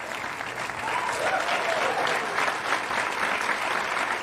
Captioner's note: whooping